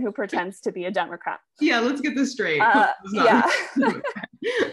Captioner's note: both laugh